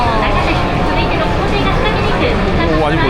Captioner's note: sighs heard here and there